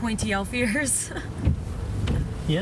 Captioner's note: laughs